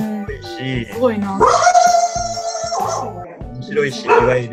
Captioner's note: dog bark wwwwwww